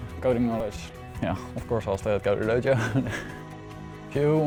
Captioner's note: laughs